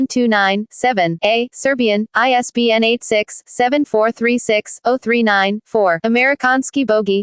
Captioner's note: Serbian